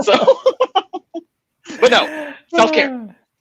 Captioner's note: laughing